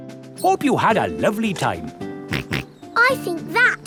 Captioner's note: snorts